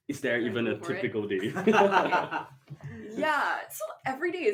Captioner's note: laughter